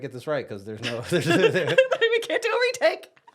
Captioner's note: both laugh